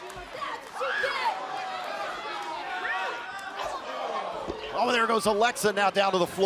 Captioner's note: crowd chatter